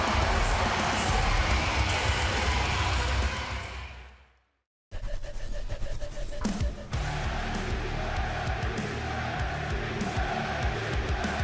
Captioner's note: crowd cheering